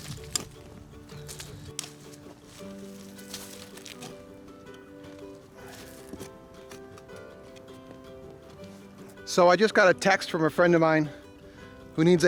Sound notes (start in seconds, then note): none